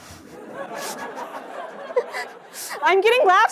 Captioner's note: laughter